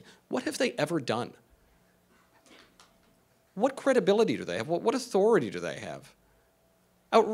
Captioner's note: none